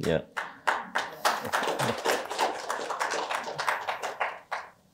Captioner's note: applause